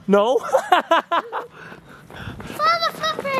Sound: laughs

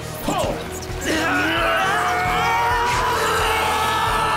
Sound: all straining

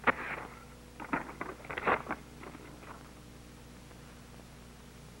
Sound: paper tears

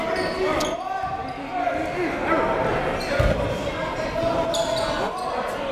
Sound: players and coaches yelling

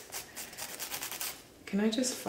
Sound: scraping

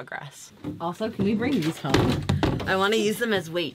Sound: jugs clunking

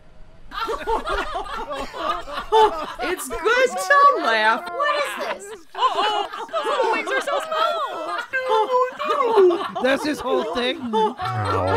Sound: laughing

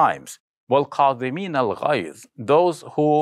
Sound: speaks arabic

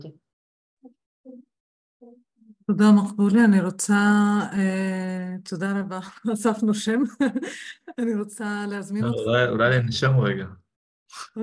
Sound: laughing

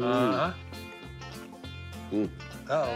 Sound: grumbles

